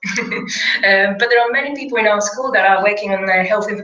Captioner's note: laugh